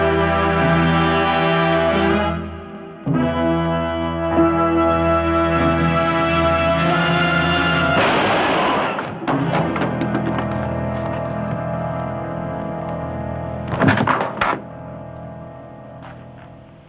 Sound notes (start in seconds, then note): 9.9 gunfire